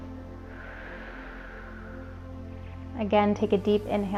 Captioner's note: exhales